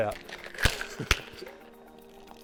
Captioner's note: laughing; thuds; dripping